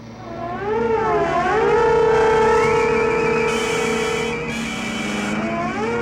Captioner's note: siren blaring; ominous music continues